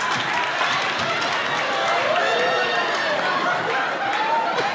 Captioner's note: laughs